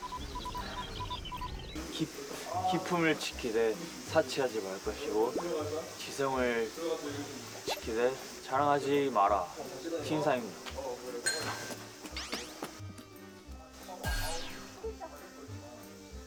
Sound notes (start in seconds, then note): 2.0 reciting; 7.7 reciting